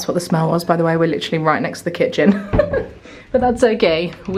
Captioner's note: laughing